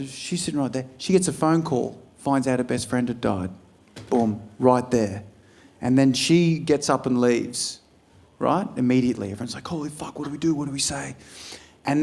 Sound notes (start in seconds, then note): none